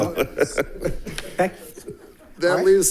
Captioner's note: laughing